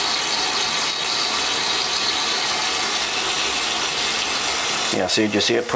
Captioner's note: running water sound